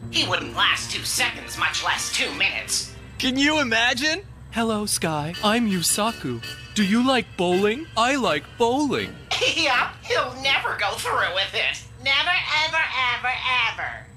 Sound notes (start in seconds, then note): 9.2 Ai laughing